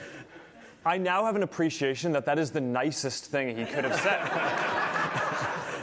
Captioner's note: laughter